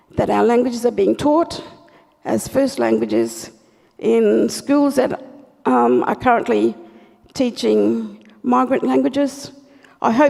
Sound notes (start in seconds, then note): none